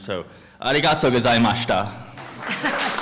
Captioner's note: non-english speech; applause